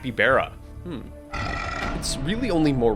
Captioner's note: creature growls